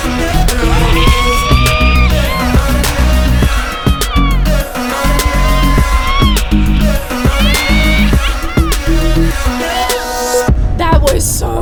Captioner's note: screaming